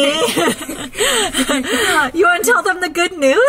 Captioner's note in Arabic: ضحك